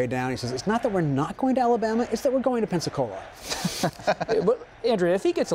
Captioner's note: laughter